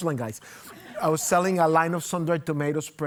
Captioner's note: audience laughing